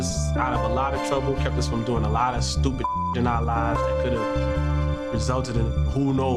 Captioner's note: beeps